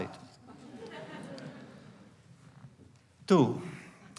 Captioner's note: laughter